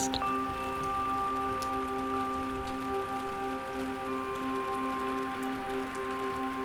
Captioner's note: light music; rain pattering